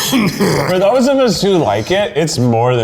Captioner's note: coughing